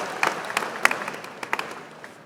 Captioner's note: applause